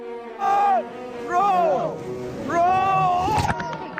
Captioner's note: men yelling